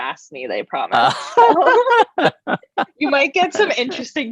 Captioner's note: laughter